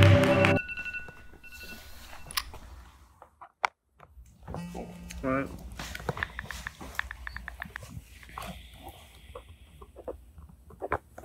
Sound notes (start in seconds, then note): 0.0 alarm ringing